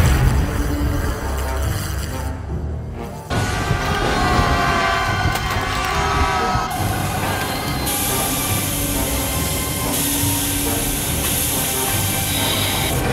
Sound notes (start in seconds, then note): 3.3 crashing, shouting; 6.6 steam jets activate; 12.9 machinery grinds